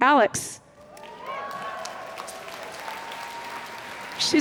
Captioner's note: applause